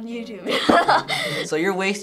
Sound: laughing

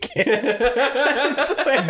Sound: laughter

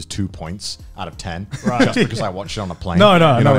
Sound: laughs

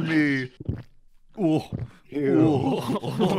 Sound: audible gulp

